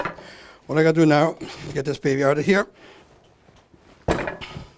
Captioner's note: banging